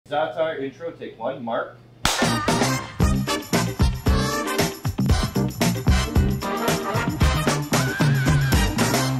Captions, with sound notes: - Za'atar intro take one mark. (hands clapping) (upbeat music)